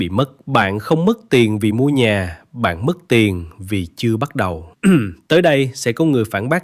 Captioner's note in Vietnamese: hắng giọng